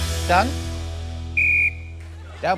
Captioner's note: blows whistle